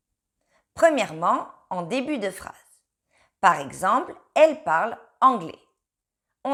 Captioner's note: she speaks English